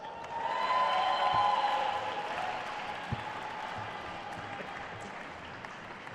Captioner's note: attendees cheering and applauding